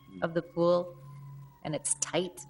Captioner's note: distant siren